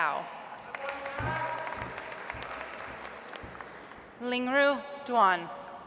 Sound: audience applauds

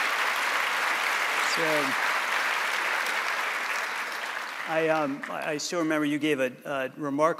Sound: applause

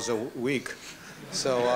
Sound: laughter

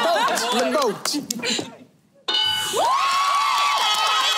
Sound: cheers

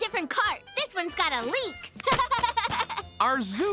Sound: laughing

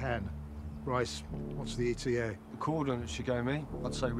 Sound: none

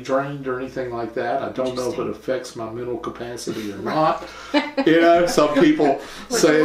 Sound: laughter

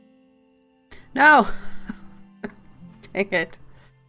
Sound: laughs

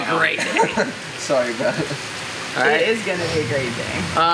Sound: laughs

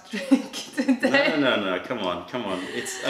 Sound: laughter

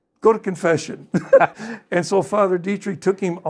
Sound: panel laughing

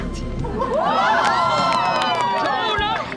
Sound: cheering

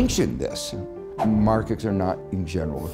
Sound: air swooshing

